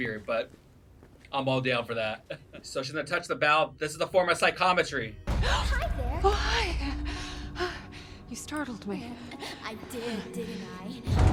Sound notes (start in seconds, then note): 2.0 laughing; 6.2 gasping